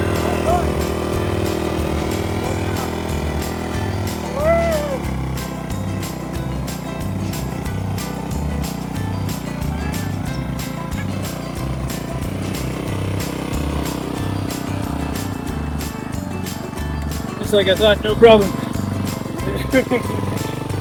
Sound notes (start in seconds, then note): 3.1 engine roaring; 3.1 light whistling music